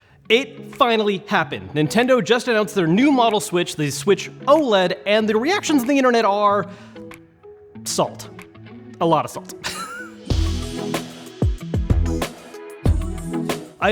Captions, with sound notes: - It finally happened. Nintendo just announced their new model Switch, the Switch OLED, and the reactions on the internet are, salt, lot of salt. (laughs) (bright upbeat music)